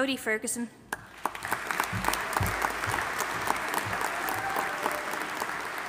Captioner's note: audience applauding and cheering